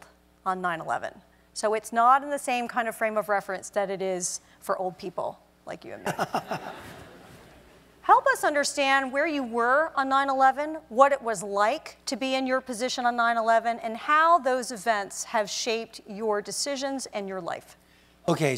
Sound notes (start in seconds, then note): 6.0 laugh